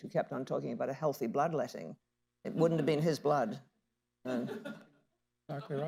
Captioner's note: laughter